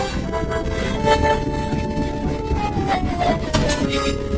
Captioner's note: gasps, whimpers; whimpering frantically